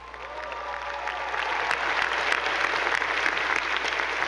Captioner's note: attendees applauding